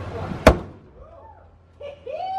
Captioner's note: balloon pops; students exclaim; professor laughs